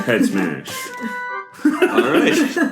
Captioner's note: laughter